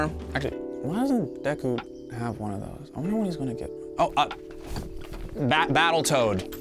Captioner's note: shuffling